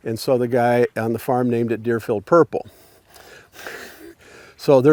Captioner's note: chuckles